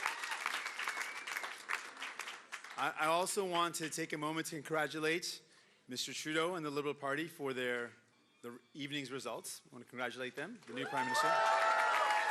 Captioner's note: cheering and Applause